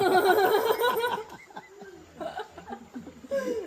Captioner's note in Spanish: risas